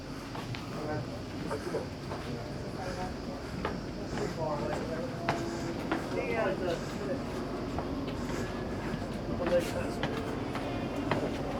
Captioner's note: people Speaking